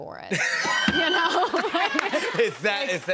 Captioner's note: laughter